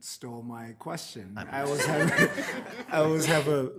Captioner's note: committee members laughing